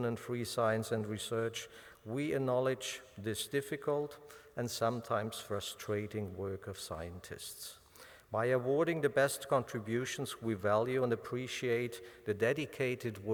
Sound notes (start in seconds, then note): none